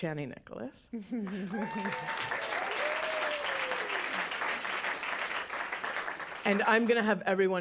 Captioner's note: applause